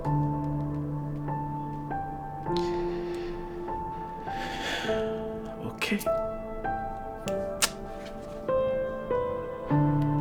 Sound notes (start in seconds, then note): 4.2 sighs